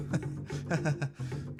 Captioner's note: nervous Laugh